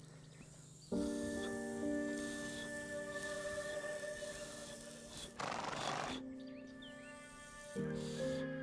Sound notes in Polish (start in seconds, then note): 5.3 rżenie konia